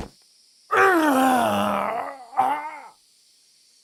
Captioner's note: moaning sound